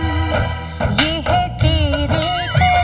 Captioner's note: Claps hand